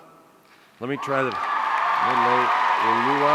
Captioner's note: audience cheering